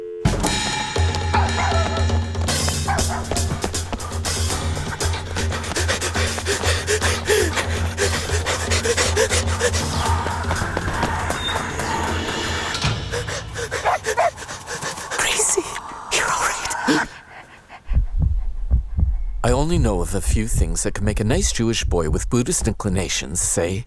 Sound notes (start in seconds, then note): 0.1 frantic music; 1.2 dog barking; 5.1 panting; 12.9 panting; 13.5 barking; 16.9 gasping; 17.7 heartbeat